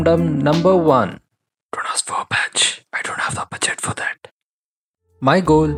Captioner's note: whispering